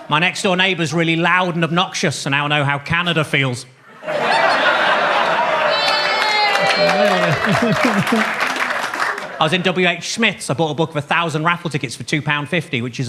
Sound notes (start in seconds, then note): 3.9 audience laughs; 5.6 audience claps; 6.4 audience cheers